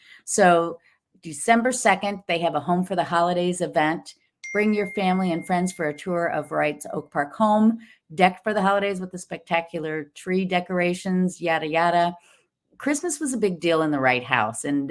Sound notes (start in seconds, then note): 4.4 bell dings